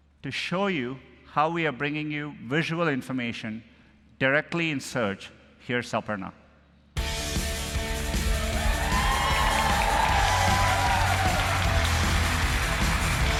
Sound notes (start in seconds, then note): 8.5 applause